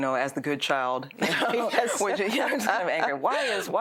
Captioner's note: both laugh